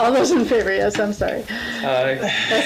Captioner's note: laughs